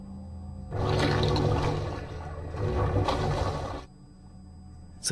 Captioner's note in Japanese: 謎の音：グニュルズニュル